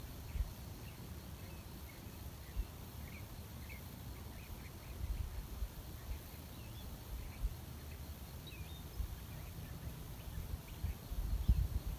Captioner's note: birdsong in background